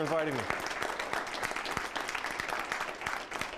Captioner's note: applause